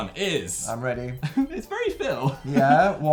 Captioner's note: giggles